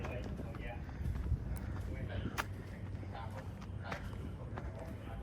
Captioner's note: footsteps